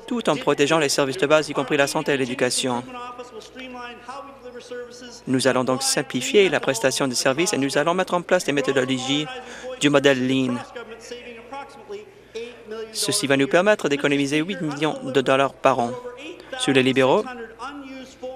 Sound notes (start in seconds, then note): none